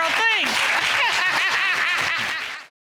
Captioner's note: laughs